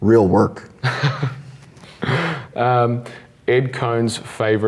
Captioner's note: laughs